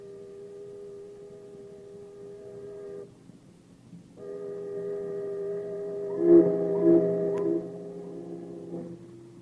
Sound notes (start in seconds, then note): 2.0 distant train whistle